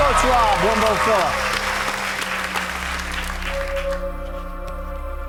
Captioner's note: audience clapping